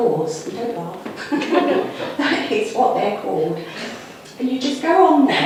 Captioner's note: audience laughs